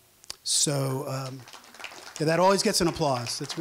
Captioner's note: applause